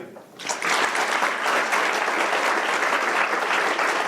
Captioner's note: applause